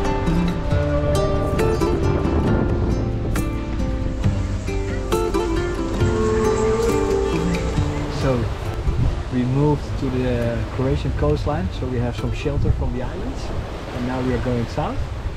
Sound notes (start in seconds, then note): 2.3 wind blowing; 4.9 calm guitar music continues